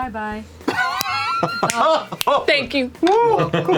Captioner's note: laughter